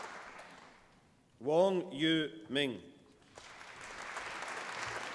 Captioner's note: applause